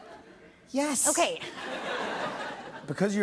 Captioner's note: laughter